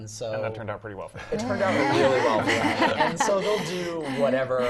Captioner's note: laugh